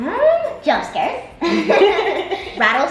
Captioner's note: both laughs